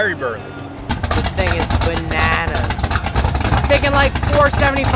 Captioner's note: engine growling